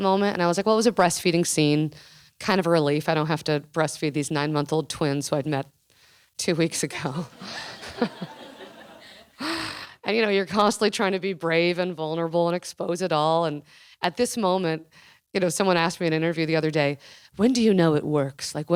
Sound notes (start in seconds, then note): 7.2 laughing